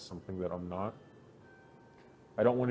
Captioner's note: church bells